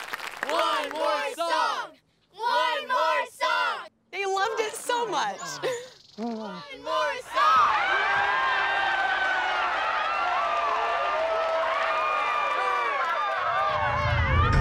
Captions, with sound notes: - [Crowd] One more song, one more song. - They loved it so much. - [Crowd] One more song, one more song. (crowd cheering)